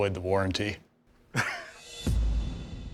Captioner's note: chuckles